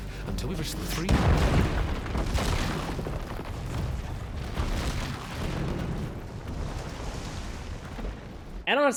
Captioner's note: crash